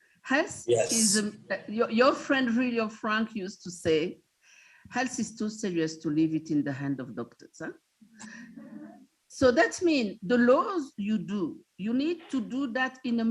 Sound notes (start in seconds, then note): 8.3 students laughing